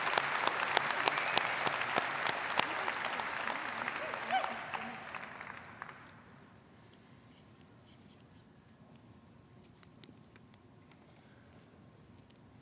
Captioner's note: applause